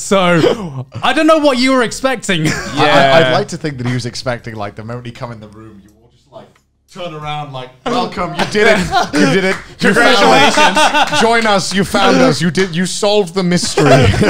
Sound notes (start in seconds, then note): 8.3 laughing and clapping; 13.6 men laughing